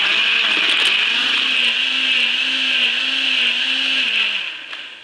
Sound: blender running

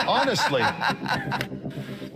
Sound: more laughing

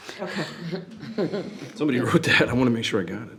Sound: group chuckles

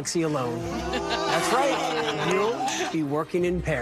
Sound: laughing

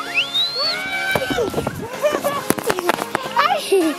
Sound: screaming; giggling

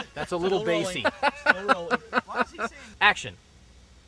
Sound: laughing

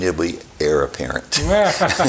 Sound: chuckling

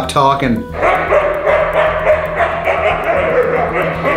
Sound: dogs barking

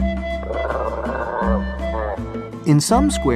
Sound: llama growls

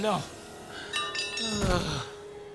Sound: sighing

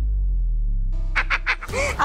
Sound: giggles

